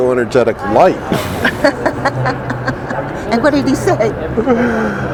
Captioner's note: laughing